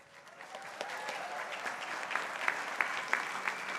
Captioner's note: crowd applauding